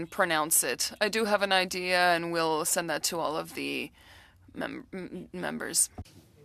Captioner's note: speaking French